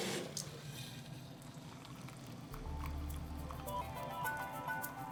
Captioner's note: pouring